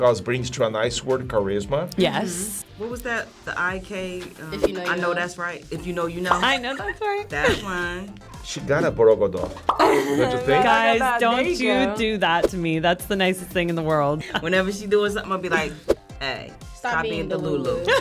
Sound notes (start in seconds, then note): 9.1 speaks foreign language; 9.6 bubble pops